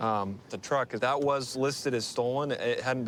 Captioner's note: none